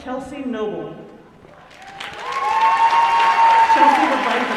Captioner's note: applause